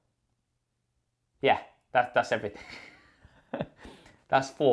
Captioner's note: laughs